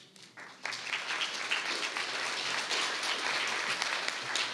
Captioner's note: audience clapping